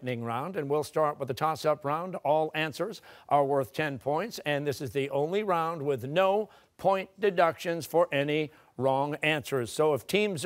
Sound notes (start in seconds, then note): none